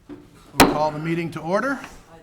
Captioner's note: speaking distantly; gavel taps